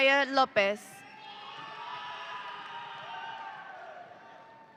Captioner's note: audience cheering